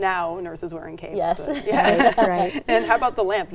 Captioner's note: laughs